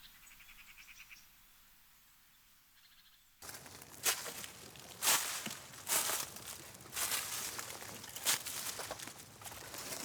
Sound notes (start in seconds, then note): 3.4 leaves crunch